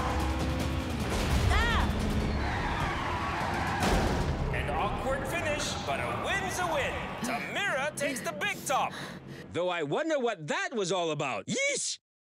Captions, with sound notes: [fireworks explode] - Ah! [wheels screeching] - An awkward finish but a win's a win. Tamira takes the Big Top! Though I wonder what that was all about. Yeesh!